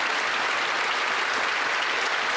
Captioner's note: applause